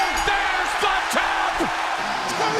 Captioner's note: bell ringing